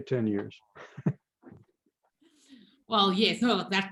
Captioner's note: laughs